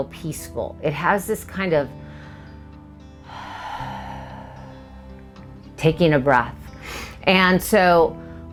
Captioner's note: exhale